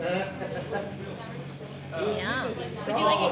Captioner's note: bar patrons chattering